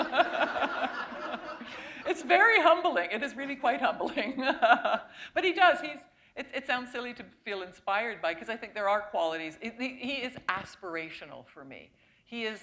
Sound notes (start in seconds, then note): 0.0 laughter; 4.0 laughter